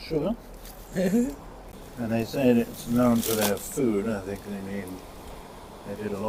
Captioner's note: chuckle